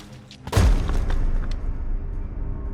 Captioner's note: crashing noise